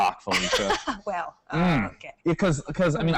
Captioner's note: laughs